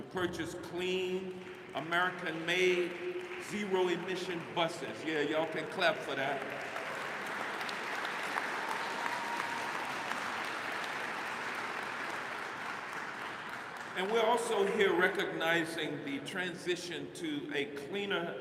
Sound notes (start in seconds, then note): 8.8 applause